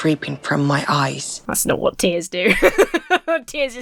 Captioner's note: Emma laughs